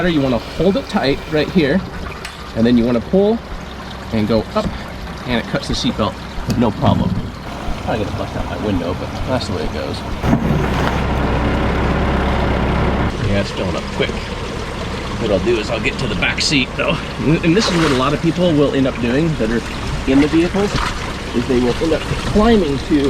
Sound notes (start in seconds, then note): 11.3 machine revving